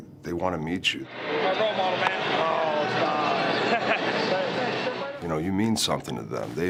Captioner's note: laugh